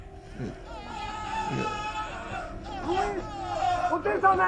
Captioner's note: person screaming